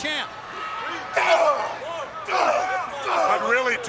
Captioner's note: wrestlers grunting